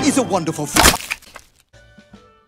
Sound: bone Snapping

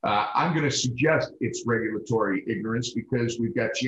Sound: none

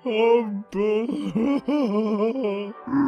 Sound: Mr Ferdinand sobbing; troll-like grunt

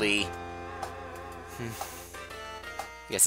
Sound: sigh

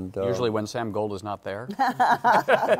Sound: laughter

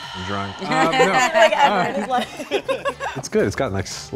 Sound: chuckles

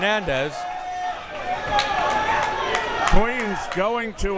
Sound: crowd members shouting

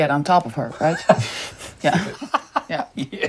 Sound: laughter

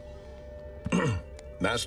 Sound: cough

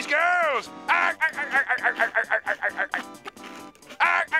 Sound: laughing

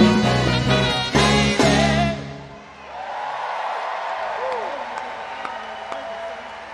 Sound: audience cheer and clap

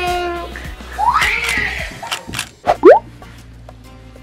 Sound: screams

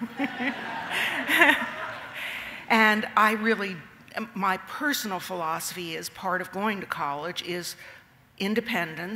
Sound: laughter

